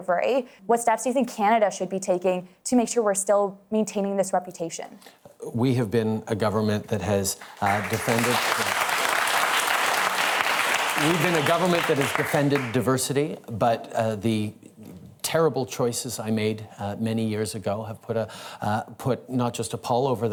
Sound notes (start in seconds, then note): 7.4 applause